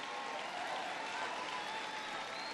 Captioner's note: applause